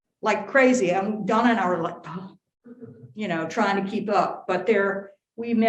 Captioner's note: sighs